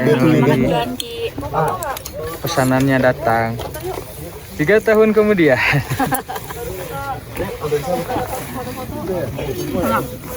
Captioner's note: laughs